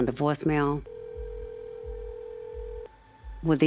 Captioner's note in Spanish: línea sonando